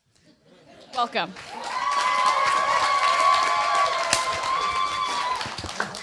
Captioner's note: applause